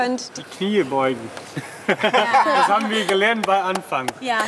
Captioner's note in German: lachend